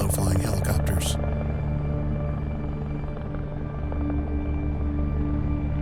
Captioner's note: helicopter blades whirring